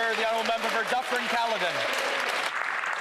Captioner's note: applause